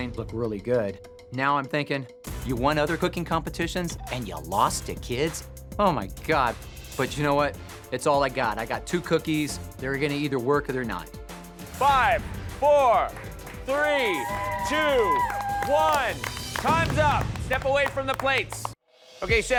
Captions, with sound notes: look really good. Now I'm thinking you won other cooking competitions and you lost to kids? Oh, my God. But, you know what? It's all I've got. I've got two cookies. They're gonna either work or they're not. Five! Four! -Three! -[applause] -Two! -[cheers] One! Time's up! Step away from the plates! Okay, chefs!